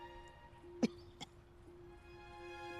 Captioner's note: elizabeth coughs